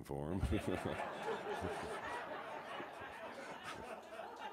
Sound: audience laughs

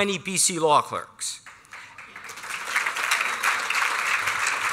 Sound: applause

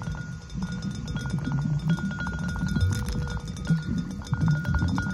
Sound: high-pitched, rapid dinging and gurgling

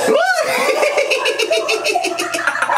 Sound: laughing

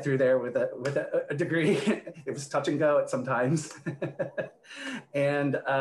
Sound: laughs

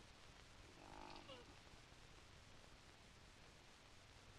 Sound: Sammy snores

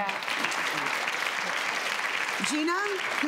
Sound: applause

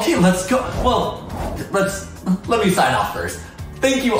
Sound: incidental tone

